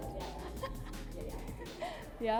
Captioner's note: chuckles